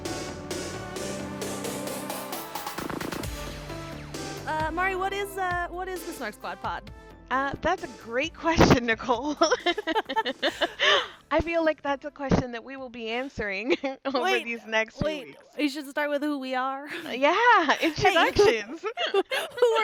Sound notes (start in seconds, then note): 0.0 theme Music; 9.4 both laugh; 16.9 both laugh